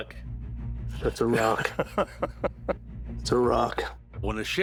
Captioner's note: laughing